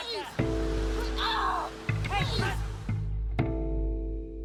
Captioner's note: screaming